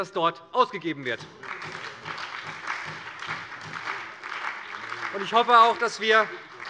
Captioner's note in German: Beifall bei der SPD